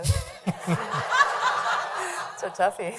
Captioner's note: laughing